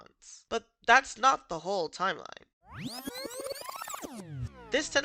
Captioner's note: rewind noises